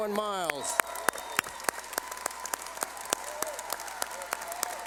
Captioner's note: cheering